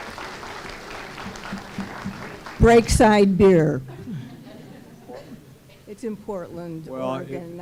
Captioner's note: applause